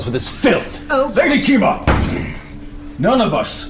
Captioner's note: shouting